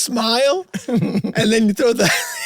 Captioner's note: Rob chuckles